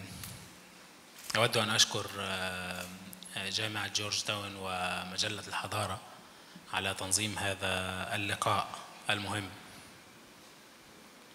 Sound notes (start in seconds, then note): 1.5 speaks in foreign language